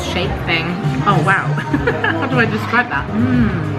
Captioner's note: laughing